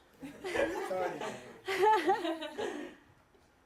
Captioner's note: laughs